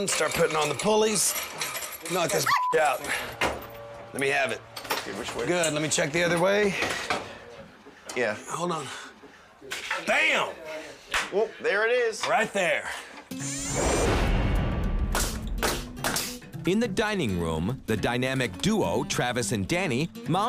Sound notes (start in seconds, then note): 2.4 beep